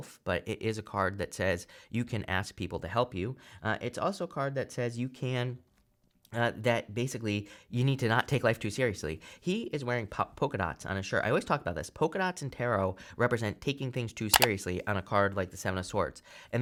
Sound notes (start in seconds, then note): 14.3 button clicks